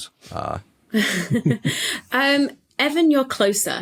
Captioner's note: snickers